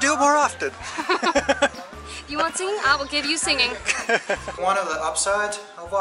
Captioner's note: laughter